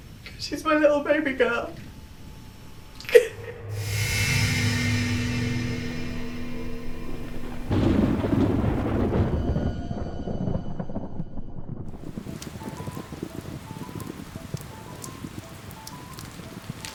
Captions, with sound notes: 'cause she's my little baby girl. (sobs) (tense music) (thunder) (rain) (eerie piano music)